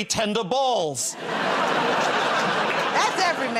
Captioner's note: laughter